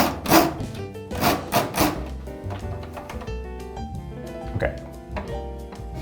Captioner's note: wheel cranking